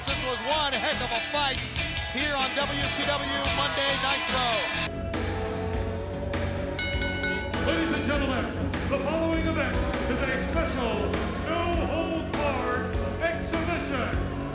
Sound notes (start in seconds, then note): 5.7 upbeat music; 6.6 bell rings